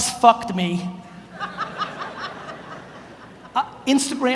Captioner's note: audience laughs